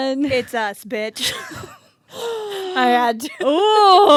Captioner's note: both laugh